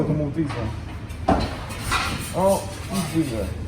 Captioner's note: utensils clanking